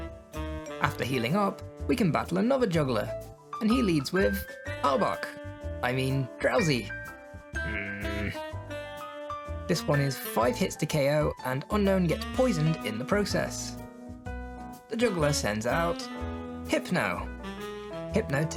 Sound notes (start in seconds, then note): 7.6 grumble